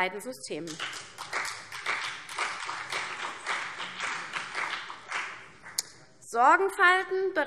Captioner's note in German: Beifall CDU und vereinzelt BÜNDNIS 90/DIE GRÜNEN